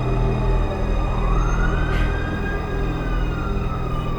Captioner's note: sirens blaring